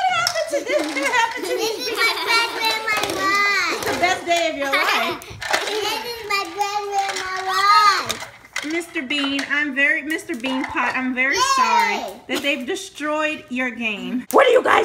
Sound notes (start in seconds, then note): 0.3 voiceover; 4.3 voiceover; 9.0 voiceover